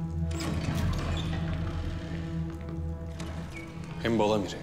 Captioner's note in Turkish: Kapı açılma sesi